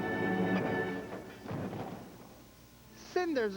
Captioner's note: crash